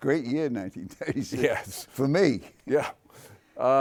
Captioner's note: chuckles